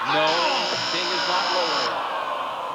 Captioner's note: buzzer sounds